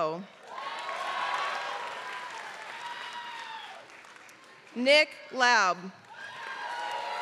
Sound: applause; applause

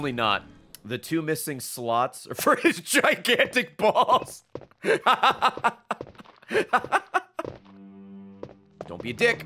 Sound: laughs

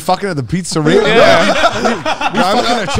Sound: all laughing

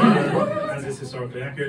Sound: woo!

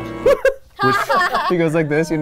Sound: laughing

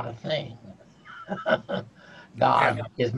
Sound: chuckles

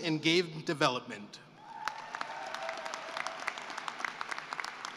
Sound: cheering and applause

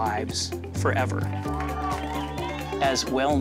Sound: cheers & applause

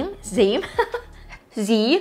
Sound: chuckles

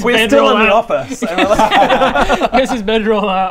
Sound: unsurprised giggles

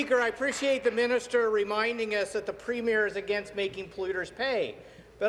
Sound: some Applause

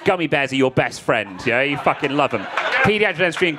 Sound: crowd laughing

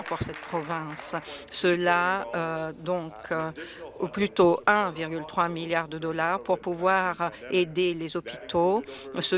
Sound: some Applause

